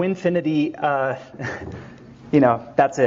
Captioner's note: chuckling